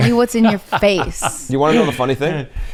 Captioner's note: laughs